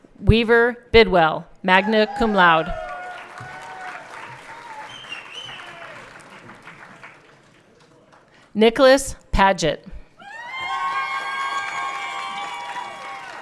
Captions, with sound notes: Ryan Weaver Bidwell, Magna cum laude. (everyone cheering) Nickalas Padgett. (everyone cheering)